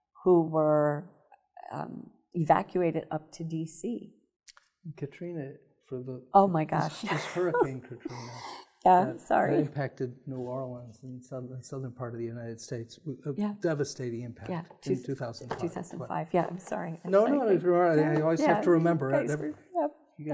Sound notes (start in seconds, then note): 6.8 laughing